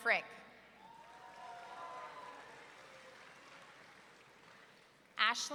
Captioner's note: audience cheering